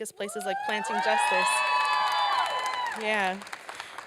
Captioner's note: applause and cheering